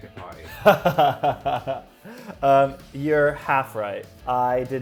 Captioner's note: laughing